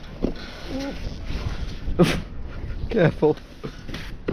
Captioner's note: groaning